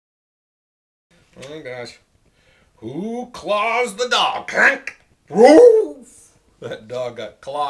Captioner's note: dog sound